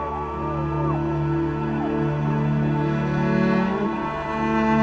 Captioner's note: crowd cheering